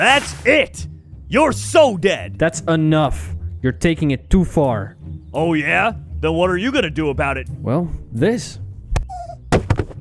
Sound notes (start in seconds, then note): none